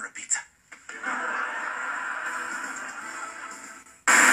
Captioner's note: canned generic laughter